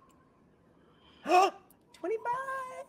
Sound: gasping

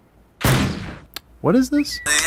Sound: Kingdom Hears 3 logo explosions

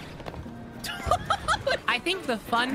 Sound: laughter

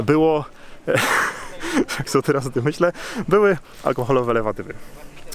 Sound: laughter

